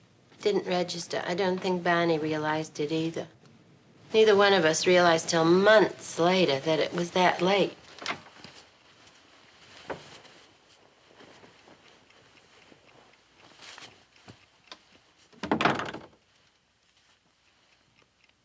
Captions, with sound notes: I didn't register, I don't think Barney realized it either. Neither one of us realized till months later that it was that late. [clock ticking] [door thuds shut]